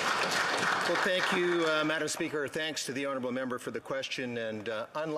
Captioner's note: some Applause